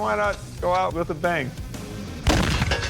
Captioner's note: explosion